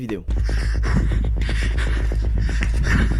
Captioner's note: breathes heavily